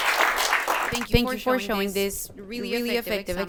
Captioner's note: applause